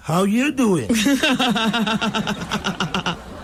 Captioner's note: laughing